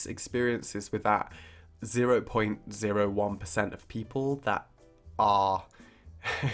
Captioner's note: laughing